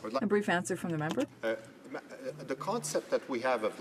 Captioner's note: speaking French